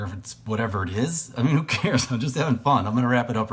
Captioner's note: chuckles